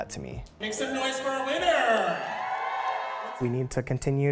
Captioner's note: audience cheering